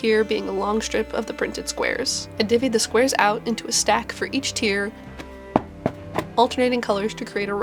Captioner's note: thwap, thwap, thwap, thwap